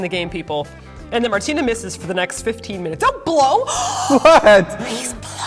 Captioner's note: gasp